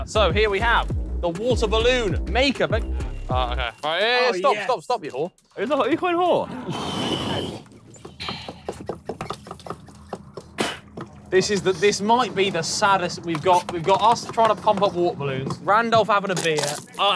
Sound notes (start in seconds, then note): 6.7 Tobi sighs; 7.5 bottle lid pumping; 10.5 Tobi spits